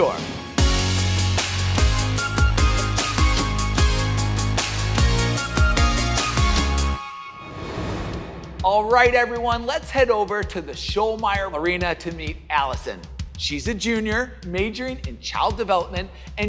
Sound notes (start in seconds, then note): 0.2 upbeat music; 7.3 air swooshing